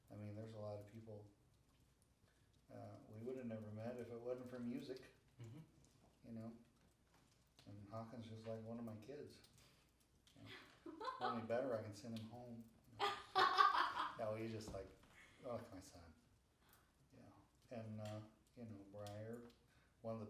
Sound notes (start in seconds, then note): 13.0 laughing